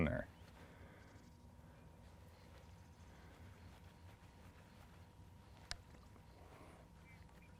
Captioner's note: whipping rod lightly; birds singing